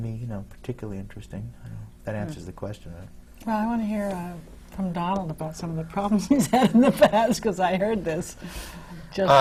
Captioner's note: laughs